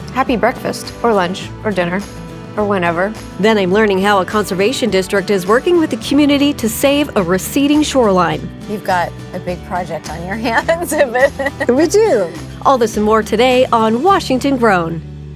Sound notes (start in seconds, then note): 10.4 laughs